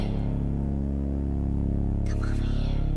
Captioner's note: whispering